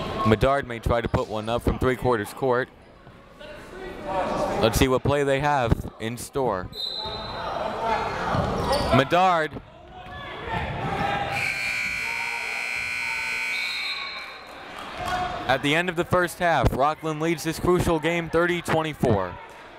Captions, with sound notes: Medard may try to put one up from 3/4 court. Let's see what play they have in store. (whistle) Medard (buzzer) (whistle) At the end of the first half, Rockland leads this crucial game 30 - 24.